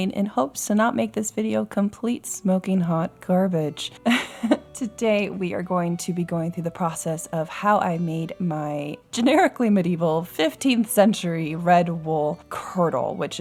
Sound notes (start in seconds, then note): 4.0 laughs